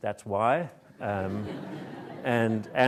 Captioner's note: audience laughs